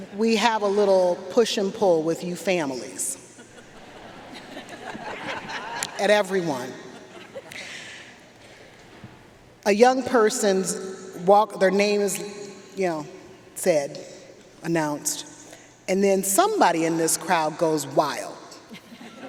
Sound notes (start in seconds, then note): 3.3 audience laughing; 18.8 audience laughing